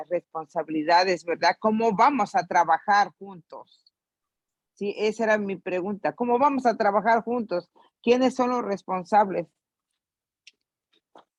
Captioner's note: in Spanish